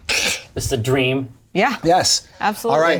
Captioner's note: imitates slurping liquid